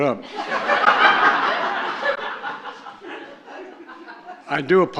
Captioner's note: laughter